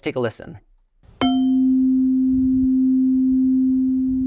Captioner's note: chime